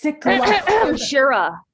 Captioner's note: clears throat